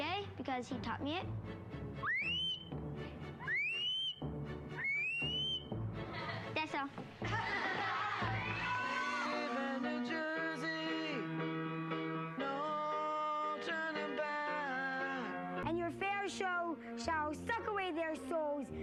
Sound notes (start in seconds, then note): 1.8 bird call; 7.7 applause